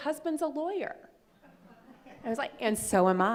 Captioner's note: laughing